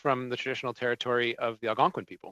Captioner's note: speaking French